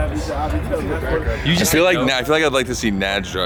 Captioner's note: background chatter